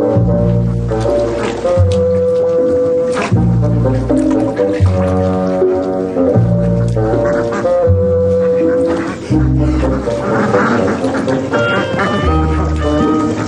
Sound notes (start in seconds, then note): 9.9 quacking